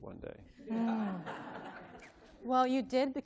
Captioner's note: laughter